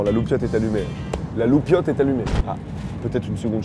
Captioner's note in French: Bruit d'explosion